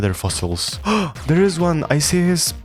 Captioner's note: gasp